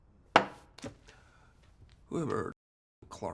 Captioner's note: glass thuds